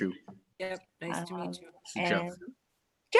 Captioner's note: multiple people talking